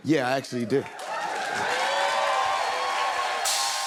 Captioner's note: cheers and applause